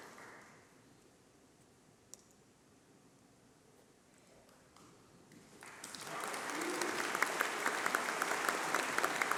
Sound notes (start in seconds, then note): 1.7 applause